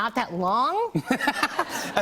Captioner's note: laughs